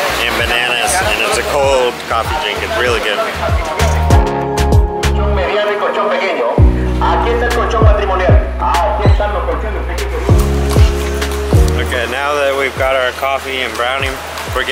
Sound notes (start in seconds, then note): 5.7 car speaker speaking foreign language